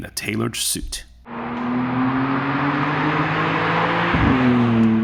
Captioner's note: twin-turbo V6 engine under full acceleration